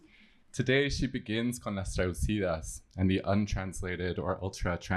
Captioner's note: spanish